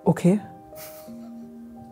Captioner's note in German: Leises Lachen